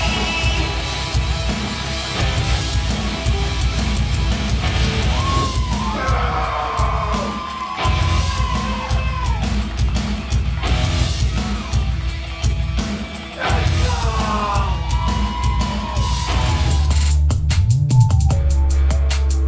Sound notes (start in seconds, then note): 5.8 shouting; 11.3 rock music playing